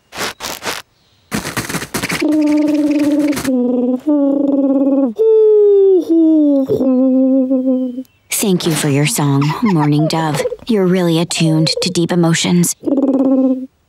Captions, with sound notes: [humming] Thank you for your song, mourning dove. You're really attuned to deep emotions.